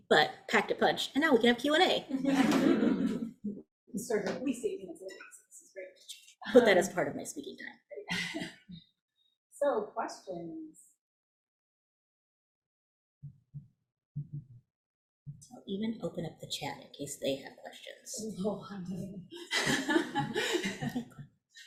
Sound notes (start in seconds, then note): 2.2 audience laughing; 19.3 laughing